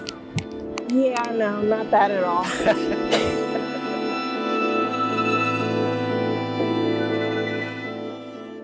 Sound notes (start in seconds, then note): 2.4 both laughing